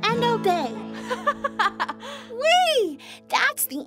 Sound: laughs

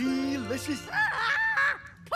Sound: Brenda screams

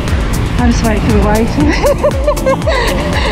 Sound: laughs

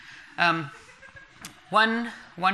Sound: laughter from the audience

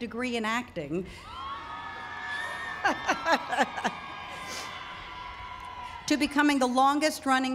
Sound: cheering

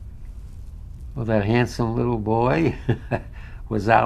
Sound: laughs

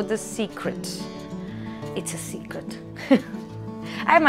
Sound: laughs

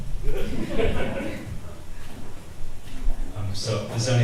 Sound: audience laughs

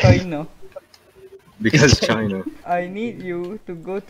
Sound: chokes

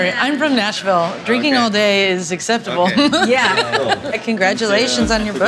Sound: laughing

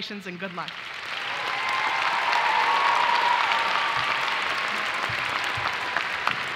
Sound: audience applauding and cheering

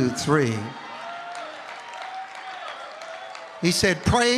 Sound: congregation applauding

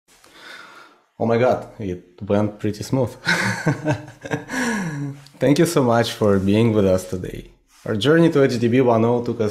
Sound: laugh

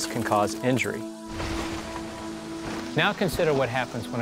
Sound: car crashing

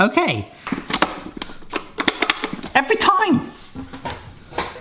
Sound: button clacks

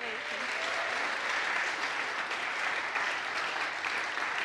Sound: audience applauds

